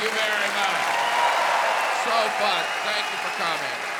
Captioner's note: audience cheering, applauding